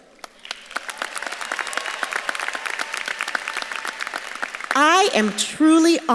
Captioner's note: audience claps and cheers